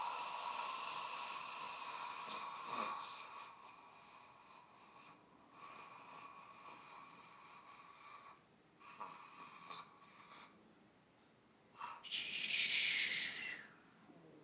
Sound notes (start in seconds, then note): 3.2 staggered exhaling